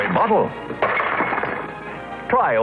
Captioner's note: burps